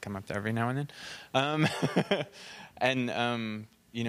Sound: laughing

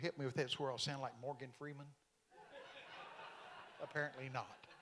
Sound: congregation laughing

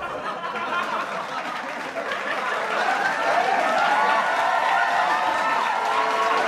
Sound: laughing; cheering and clapping

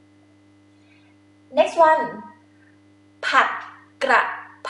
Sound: talking in foreign language

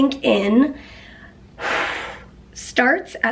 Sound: heavy sigh

